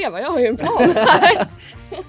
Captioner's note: laugh